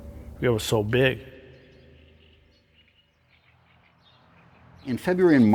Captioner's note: birds chirping